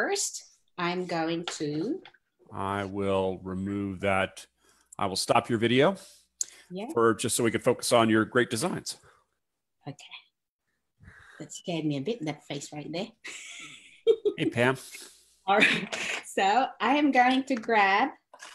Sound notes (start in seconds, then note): 13.6 laughs